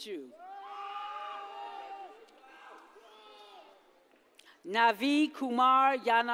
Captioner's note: audience cheers and applauds